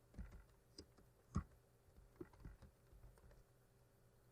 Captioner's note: typing